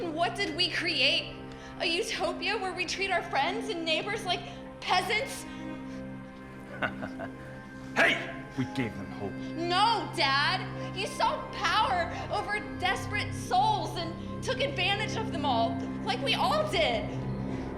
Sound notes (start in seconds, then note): 6.6 Sean laughs